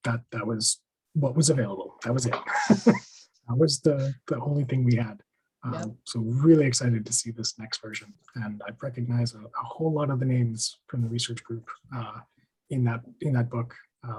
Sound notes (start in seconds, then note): 2.3 laughs